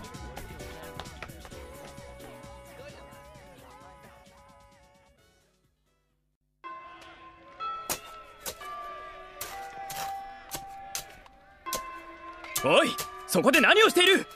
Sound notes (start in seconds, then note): 6.6 bell signalling the end of class; 8.4 the sound of something hitting dirt